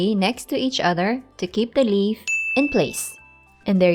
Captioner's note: timer Dings